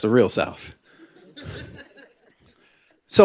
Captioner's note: laughter